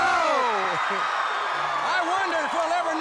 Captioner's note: crowd cheering